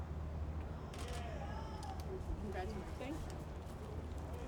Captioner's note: camera clicks